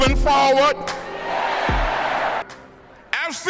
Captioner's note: crowd